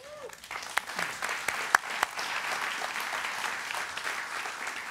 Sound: applause

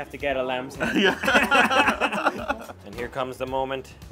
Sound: laughing

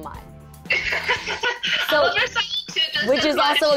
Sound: laughing

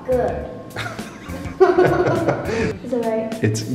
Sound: both laughing

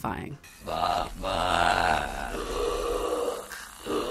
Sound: demonic screaming

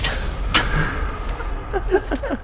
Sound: laughing some more

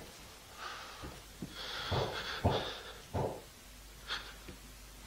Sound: banging

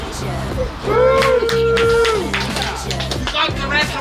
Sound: cheering

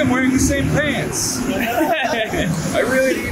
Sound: all laughing

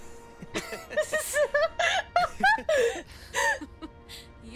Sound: laughter

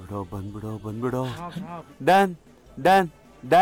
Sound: Malay Language

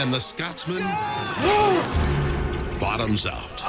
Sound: man screaming

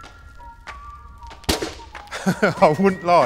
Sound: explosion

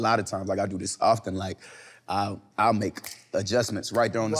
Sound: snapping gently

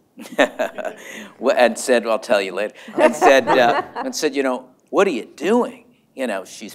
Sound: laughter

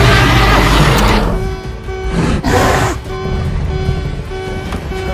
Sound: emergency siren wailing

